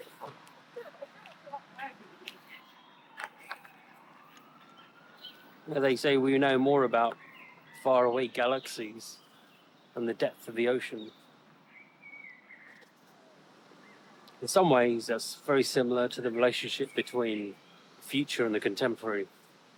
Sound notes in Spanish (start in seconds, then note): 0.0 charla confusa; 3.5 suena la sirena